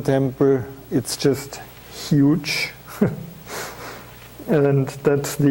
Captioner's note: chuckling